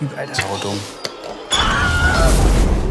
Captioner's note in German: Schrei